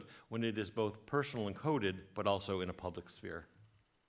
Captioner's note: none